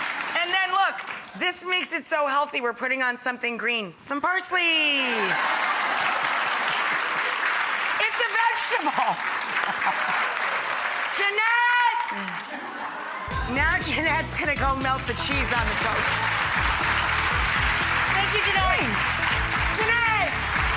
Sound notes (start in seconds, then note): 5.0 audience laughs and applauds; 13.2 upbeat music; 15.0 audience applauds; 16.0 upbeat music